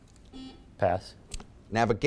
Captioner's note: buzzer beeping